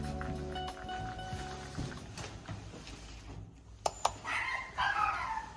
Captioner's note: warning: sudden loud barking ⚠️